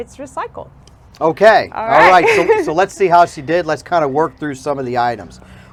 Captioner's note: laughter